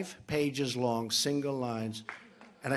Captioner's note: applause